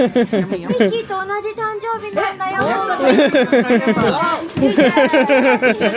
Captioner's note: speaking Japanese; laughing